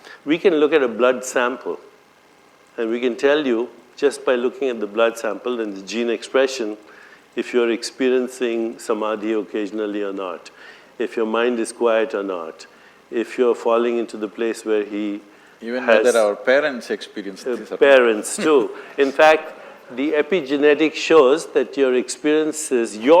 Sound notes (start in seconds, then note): 18.1 laughs